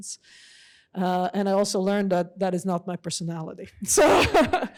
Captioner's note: laughs